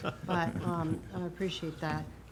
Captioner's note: chuckling